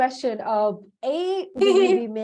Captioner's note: laughs